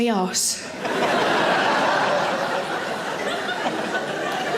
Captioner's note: audience laughing